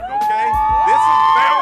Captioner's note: crowd cheering